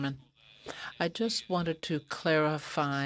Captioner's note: speaking french